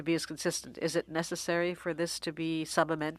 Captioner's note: speaking French